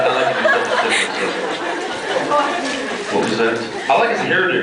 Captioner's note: laughs